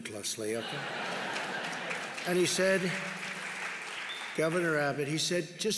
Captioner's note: laughter and applause